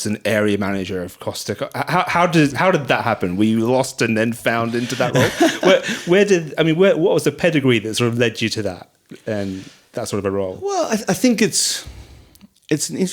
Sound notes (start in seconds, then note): 4.6 laughing